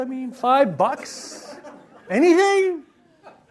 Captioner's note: audience laughs